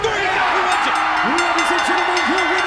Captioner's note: crowd cheering